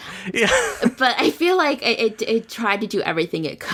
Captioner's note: laughs